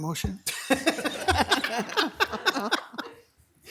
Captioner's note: all laugh